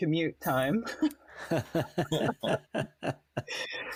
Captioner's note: laughs